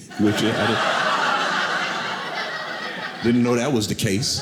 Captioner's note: audience laughing